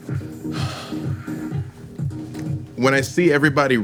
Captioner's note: sighs